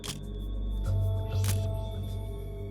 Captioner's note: camera shutter click